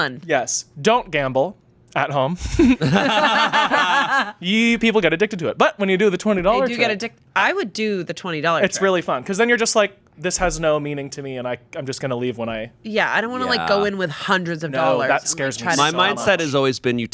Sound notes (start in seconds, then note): 2.4 group laughing